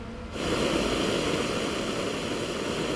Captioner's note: loud whoosh of flame